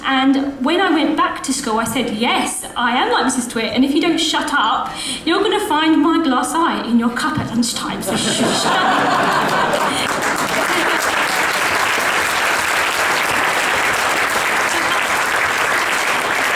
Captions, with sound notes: And when I went back to school, I said "Yes, I am like Mrs Twit. And if you don't shut up, you're gonna find my glass eye in your cup at lunchtime. So shush! [Audience laughs and applauds]